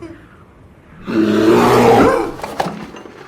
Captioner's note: growls